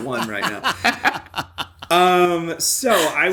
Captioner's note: laughter